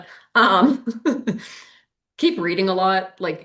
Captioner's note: chuckling